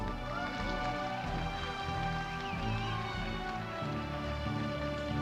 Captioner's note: audience applauding